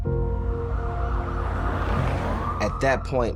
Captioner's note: ambulance sirens wailing